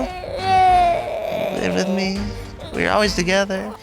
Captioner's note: cries